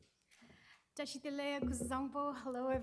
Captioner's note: non-english speech